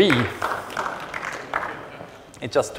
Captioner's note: applause